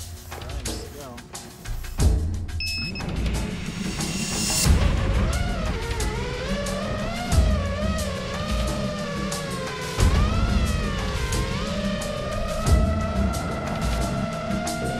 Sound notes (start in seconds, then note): 2.6 beeping; 2.7 drone whirring